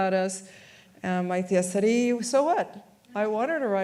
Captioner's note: speaks in foreign language